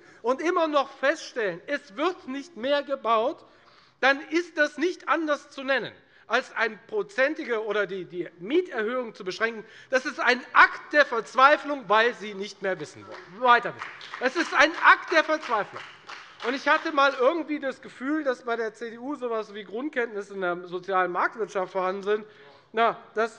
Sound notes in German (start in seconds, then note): 10.0 Beifall bei der FDP